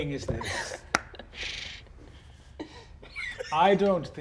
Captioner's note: laughter